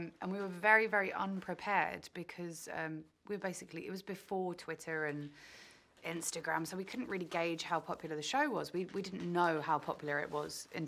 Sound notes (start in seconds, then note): none